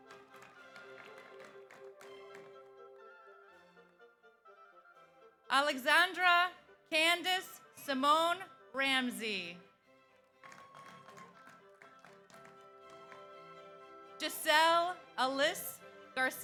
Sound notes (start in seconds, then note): 0.0 audience applauds; 10.4 audience applauds; 10.5 audience cheers